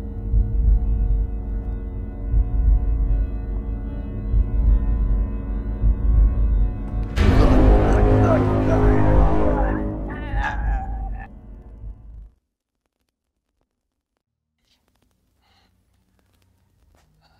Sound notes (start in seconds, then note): 7.3 Ezra grunting; 7.4 intense music